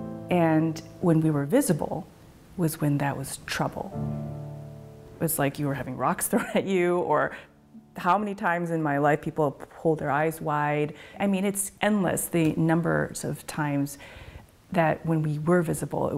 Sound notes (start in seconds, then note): 6.3 chuckles